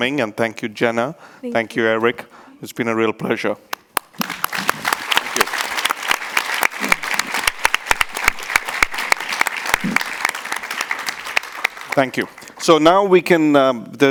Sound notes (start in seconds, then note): 3.9 audience and panelists applaud